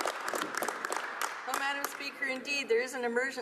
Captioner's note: applause